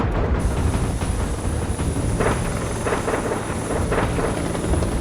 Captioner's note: helicopter blades whirring